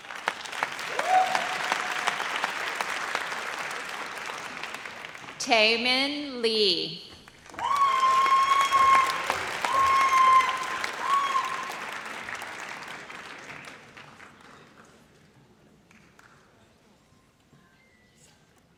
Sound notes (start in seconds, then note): 0.0 audience applauds; 7.5 audience cheers